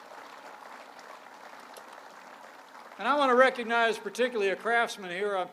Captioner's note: applause